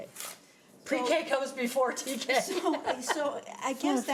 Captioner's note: laughs